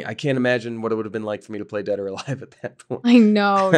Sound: laughs

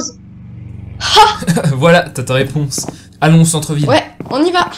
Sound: laugh

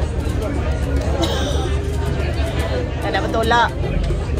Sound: laugh

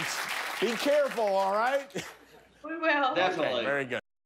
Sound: cheers and applause

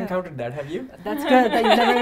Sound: laugh

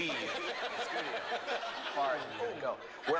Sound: laughter

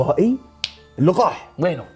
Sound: snaps fingers

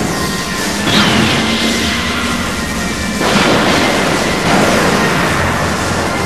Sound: bombs exploding around a young Magneto

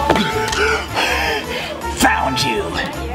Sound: security guard gasps

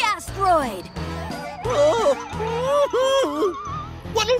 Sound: whimpering

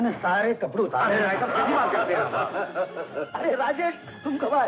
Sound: laughing

